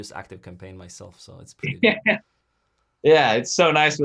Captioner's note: chuckles